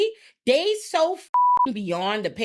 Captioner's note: beep